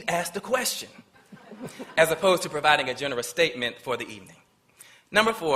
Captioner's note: laughter